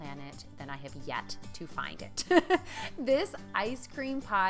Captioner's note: laughing